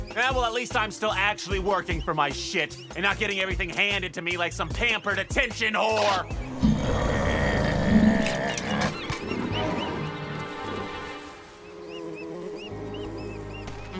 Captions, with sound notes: Yeah? Well at least I'm still actually working for my shit And not getting everything handed to me like some pampered attention whore! [Fizz growls] [Queives squeaking]